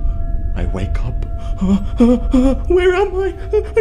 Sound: panicked sound

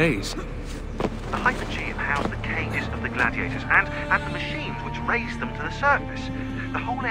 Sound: Shaun through radio

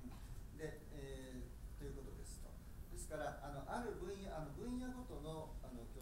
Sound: speaking in foreign language

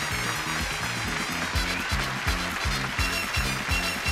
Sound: audience applauding

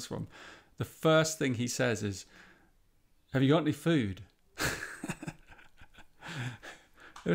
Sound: chuckles

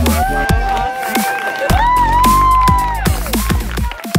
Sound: crowd cheers

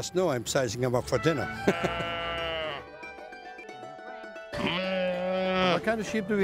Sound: laughs; sheep bleating

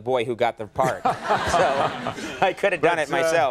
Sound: laughter

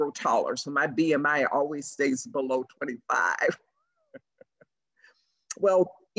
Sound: laughs

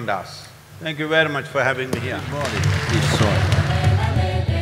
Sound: applause

